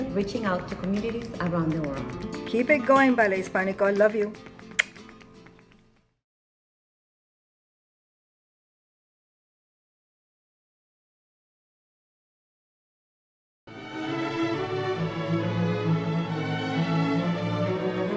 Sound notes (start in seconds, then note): 4.6 blowing kisses; 13.7 orchestral music